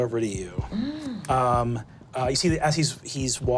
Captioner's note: gasping